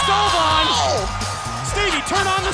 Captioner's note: crowd cheering